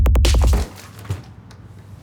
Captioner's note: music builds to a crescendo; thud